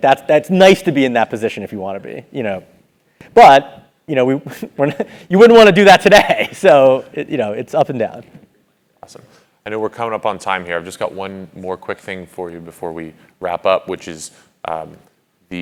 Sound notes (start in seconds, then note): 6.0 laugh